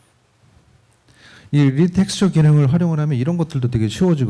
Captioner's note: speaking korean